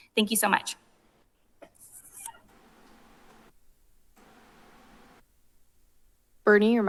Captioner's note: silence